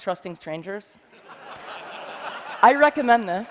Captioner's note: laughter